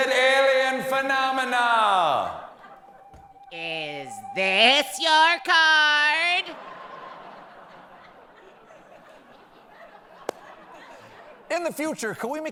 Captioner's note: echo